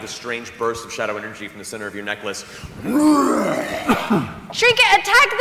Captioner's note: roars